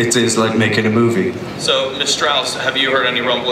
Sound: voiceover

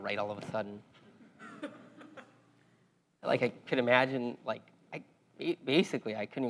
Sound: laugh

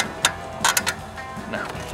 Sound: wheelchair clicking

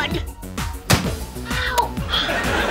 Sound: thud

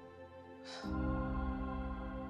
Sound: sighs

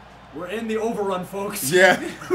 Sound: laugh

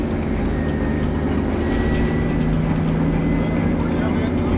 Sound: truck engine roaring

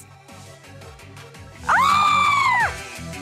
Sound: high voice; both scream

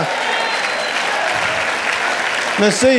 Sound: audience applauding

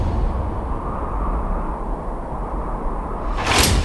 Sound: intense music; wind whistles; music bangs

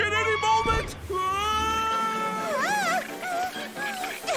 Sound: screaming

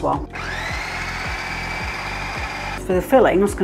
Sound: food processor whirring

